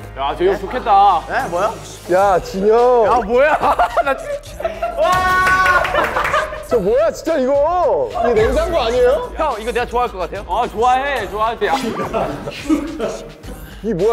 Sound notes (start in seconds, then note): 5.0 cheers